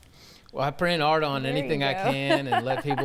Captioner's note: laughs